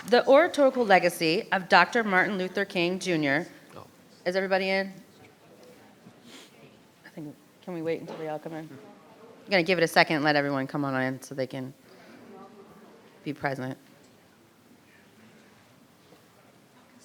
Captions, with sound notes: The oratorical legacy of Dr. Martin Luther King Jr... Is everybody in? (faintly speaking) I think can we wait until they all come in. We're gonna give it a second and let everyone come on in, so they can be present. (group chattering)